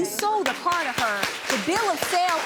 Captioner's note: audience clapping